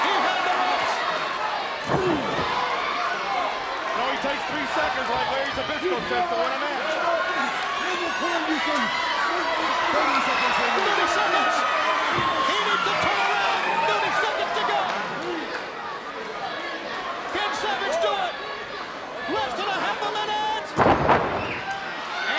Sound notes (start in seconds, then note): 7.7 Colonel Parker yelling